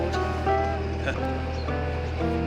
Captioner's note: gentle music; laughs